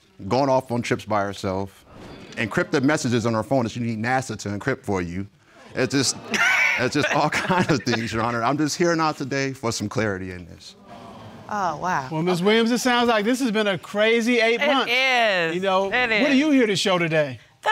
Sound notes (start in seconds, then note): 5.8 judge dana laughs